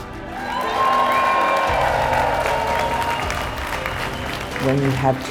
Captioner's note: applause